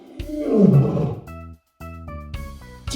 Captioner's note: animal sound: Lion roar